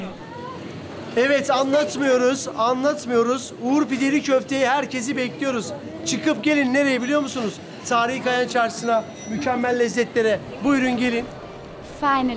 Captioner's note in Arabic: بالتركية